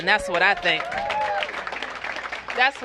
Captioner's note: applause